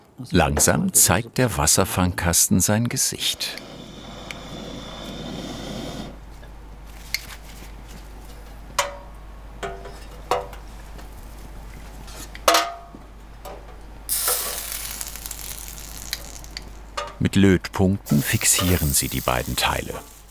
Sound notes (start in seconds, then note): 3.1 hissing sound; 6.1 hissing stops; 14.0 tingling